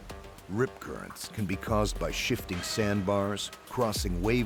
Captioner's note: voiceover